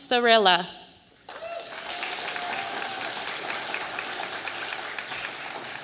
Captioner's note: audience applauding